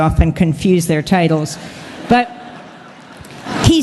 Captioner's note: laughter